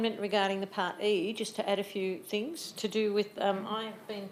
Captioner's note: speaks faintly